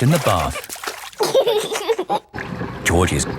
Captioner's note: giggling